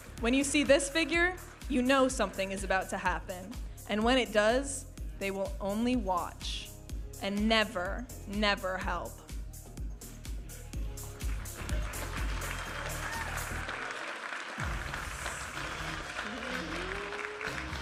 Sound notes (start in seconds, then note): 11.2 audience applauding and cheering; 14.4 upbeat music